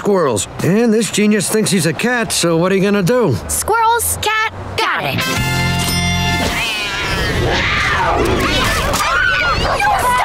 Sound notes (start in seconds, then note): 6.5 yowling, roaring; 6.6 screaming